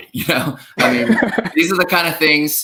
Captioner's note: laughs